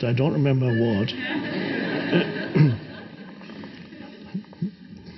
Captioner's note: audience laughs